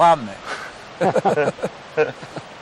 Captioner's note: laughs